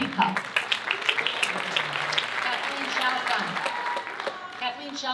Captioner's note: audience cheering and applauding